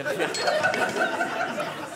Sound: audience laughing

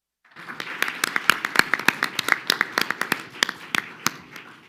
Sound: audience applauding

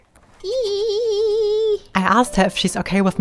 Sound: buzzing

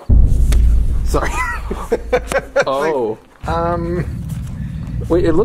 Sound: Shane laughing

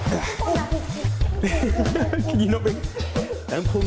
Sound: laughs

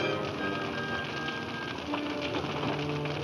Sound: fire crackling

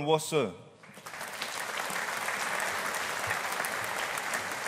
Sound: audience applauding

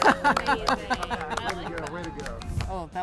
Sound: chuckles

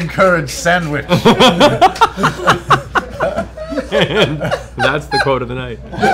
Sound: laughter

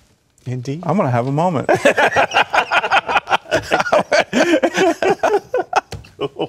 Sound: laughter

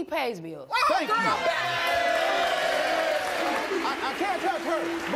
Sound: audience cheers and claps

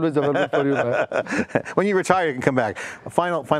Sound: laughs

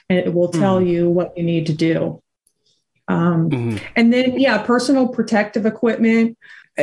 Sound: stammering

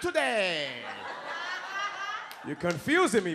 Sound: audience laughs

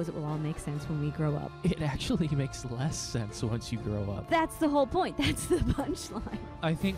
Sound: laughing

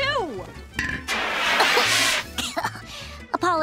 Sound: coughs

